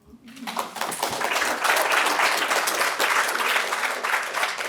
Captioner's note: all applaud